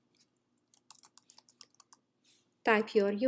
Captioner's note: instructor typing